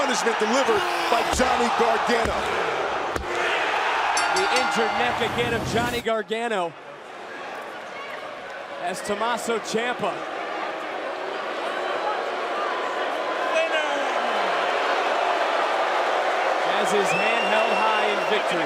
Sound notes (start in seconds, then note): 3.2 crowd cheering; 4.1 bell ringing; 17.2 crowd cheering